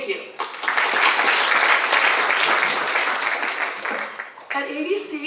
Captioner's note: audience applauds